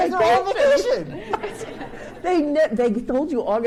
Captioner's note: laughing; audience chuckles